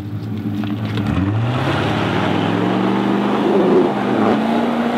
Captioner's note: engine revving